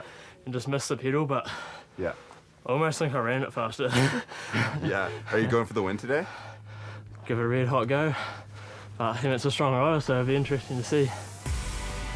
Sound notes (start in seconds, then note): 3.9 laughs